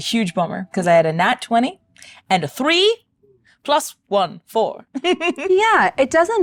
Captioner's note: laughs